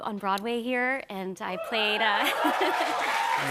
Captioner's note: cheers and applause